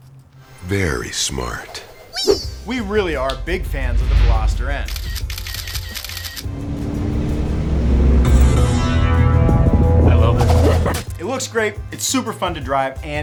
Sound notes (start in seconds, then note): 5.9 camera shutter clicking; 6.7 engine revving